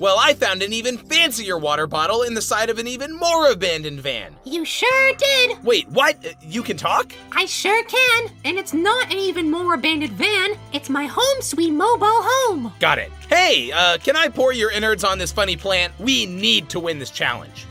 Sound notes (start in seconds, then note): none